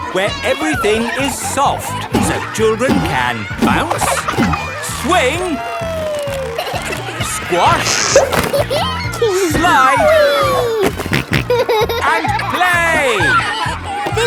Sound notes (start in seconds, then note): 8.3 giggles; 10.0 snorting